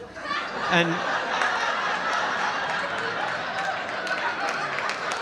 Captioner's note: audience laughing